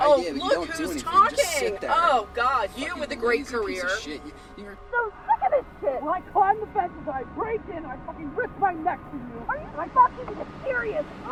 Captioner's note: quarreling heatedly